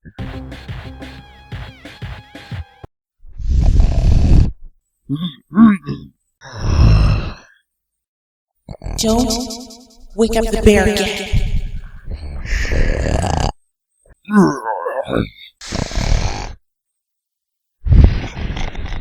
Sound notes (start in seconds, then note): 3.3 snoring; 12.3 snoring